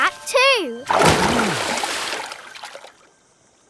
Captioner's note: water splashes